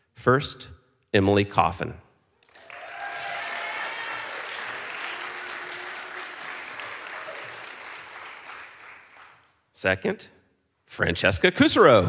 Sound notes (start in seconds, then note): 2.4 audience applauds; 2.5 audience cheers